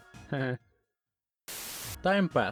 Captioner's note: static